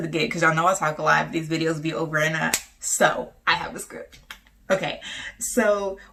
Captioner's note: snaps fingers